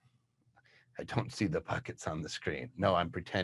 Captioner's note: chuckles